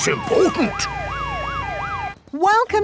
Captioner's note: sirens wailing